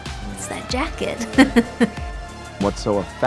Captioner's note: laughs